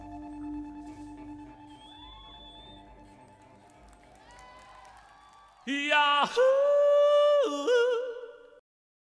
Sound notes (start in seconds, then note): 1.5 audience cheering